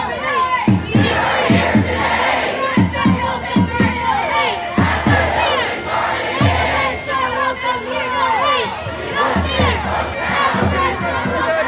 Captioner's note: chanting voices overlapping in background